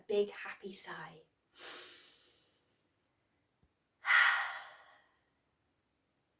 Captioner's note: sighs